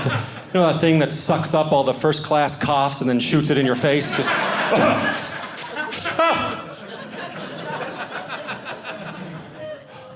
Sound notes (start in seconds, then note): 4.3 coughing; 7.6 audience laughing